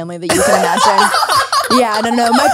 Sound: everyone laughs

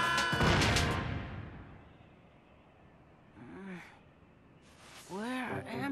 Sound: screaming; thudding

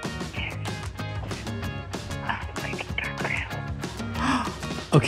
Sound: whispers

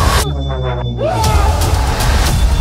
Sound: screaming

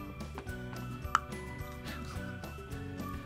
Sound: pickle snaps

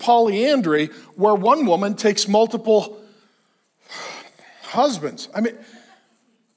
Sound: sighs

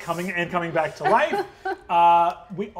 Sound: laughing; laughs

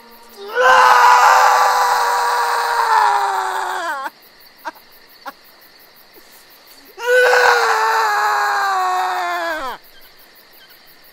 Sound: screaming

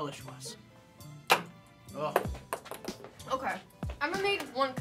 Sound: ball bouncing

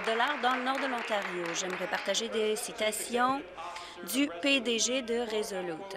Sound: applause

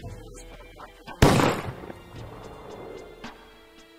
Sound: gun shot

